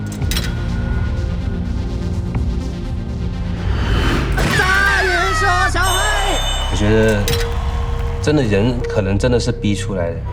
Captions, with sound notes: [man speaking Chinese] I think people are pushed to succeed.